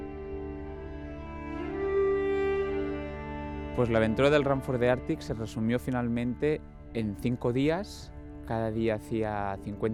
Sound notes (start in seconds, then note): 4.0 speaking in foreign language